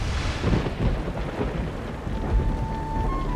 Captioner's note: thunder crashes